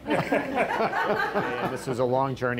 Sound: all laughing

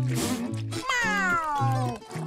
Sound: meowing

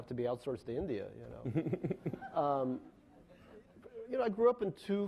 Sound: laughing

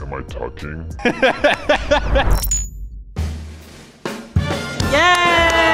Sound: laughs; cheering

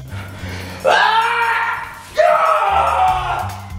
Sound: screams

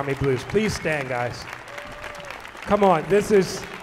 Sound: audience applauding

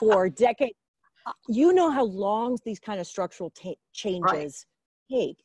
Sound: laughs

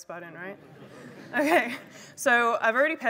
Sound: laughter

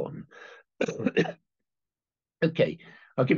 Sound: coughs

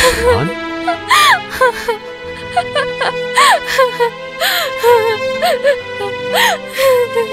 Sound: crying

